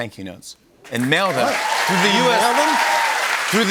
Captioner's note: cheers and applause